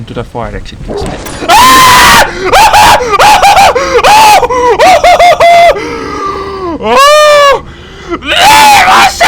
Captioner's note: terrified screaming!